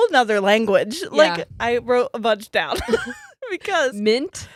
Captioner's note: giggles